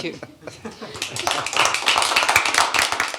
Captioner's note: applause